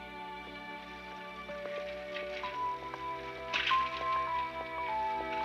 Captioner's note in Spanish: ruido de bicicletas; música tranquila